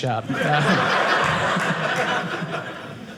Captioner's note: audience laughing